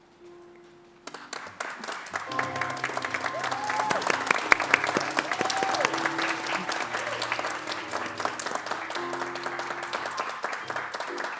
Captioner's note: applause